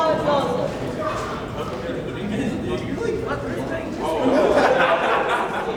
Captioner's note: students talk and laugh